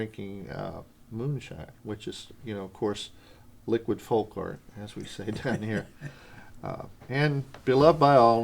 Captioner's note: laughter